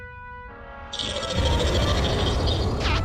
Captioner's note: metal grinding; growls